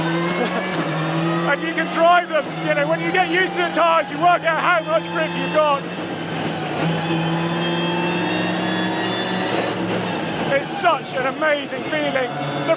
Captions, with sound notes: And you can drive them. You know when you get used to the tires, you work out how much grip you've got. (engine rasping) It's such an amazing feeling.